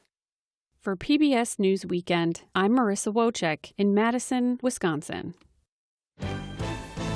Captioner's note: voice-over